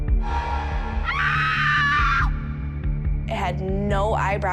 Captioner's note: screams